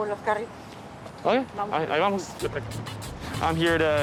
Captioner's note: speaking Spanish